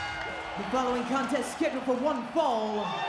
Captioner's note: bell rings